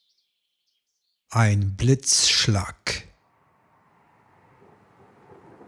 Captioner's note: german